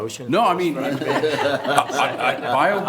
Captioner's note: everyone laughs